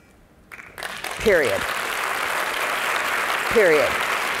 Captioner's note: audience applauding